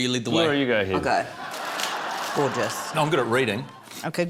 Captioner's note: laughter